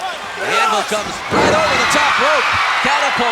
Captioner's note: audience cheering